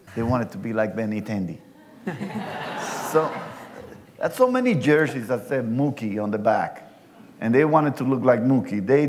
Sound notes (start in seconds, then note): 1.8 laughter